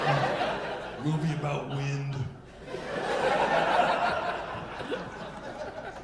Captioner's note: audience laughing